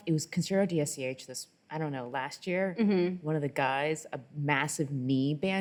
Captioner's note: none